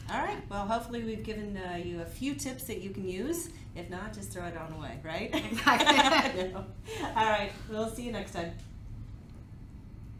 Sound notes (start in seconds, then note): 5.4 giggles